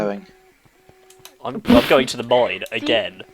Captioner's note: laughing